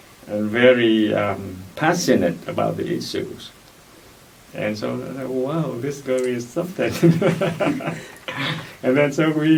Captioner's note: laughs